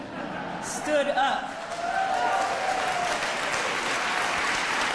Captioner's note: audience laughs and cheers